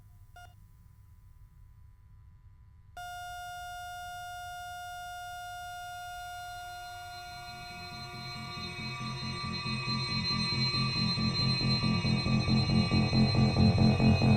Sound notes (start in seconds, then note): 3.0 heartbeat machine flatlining